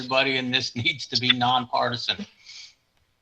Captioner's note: chuckles